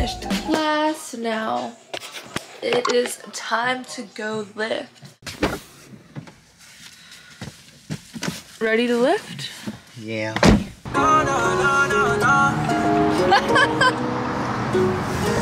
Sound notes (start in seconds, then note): 13.0 laughing